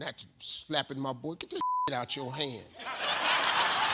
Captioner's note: beep; audience laughs